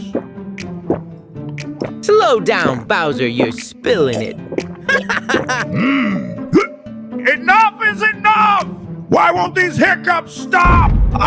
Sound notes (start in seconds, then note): 0.3 gulping; 3.9 gulping; 6.1 hiccups